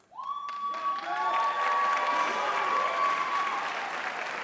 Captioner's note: cheering